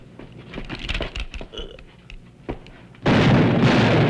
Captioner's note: man grunts; gunshots